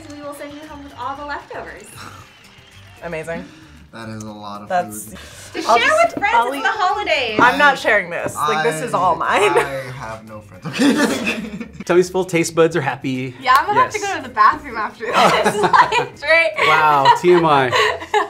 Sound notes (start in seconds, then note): 10.6 laughs; 15.0 both laugh